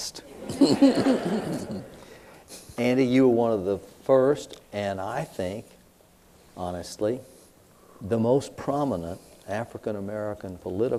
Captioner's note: laughter